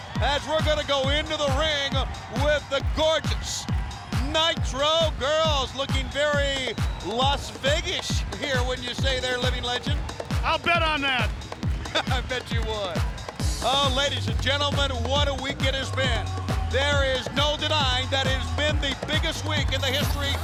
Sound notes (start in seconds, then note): 11.5 laugh